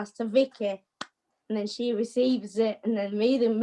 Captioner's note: claps